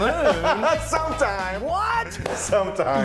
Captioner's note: laughing